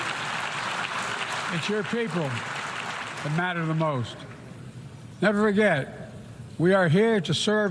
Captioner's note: applause